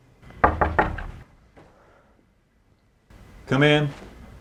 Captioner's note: knock on door